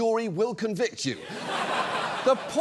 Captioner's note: studio audience laughs